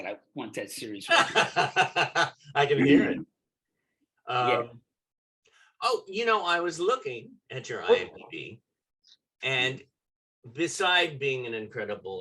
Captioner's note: laughter